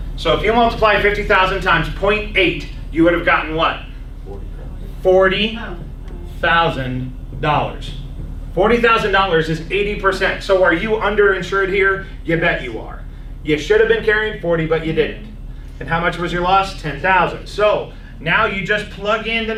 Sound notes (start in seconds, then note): 13.8 clears throat